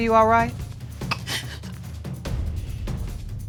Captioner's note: sobbing